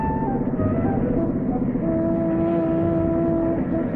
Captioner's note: engine rumbling